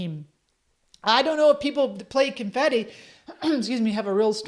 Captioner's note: clears throat